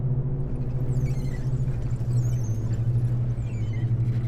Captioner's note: bikes squeaking